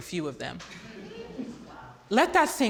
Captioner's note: group chuckling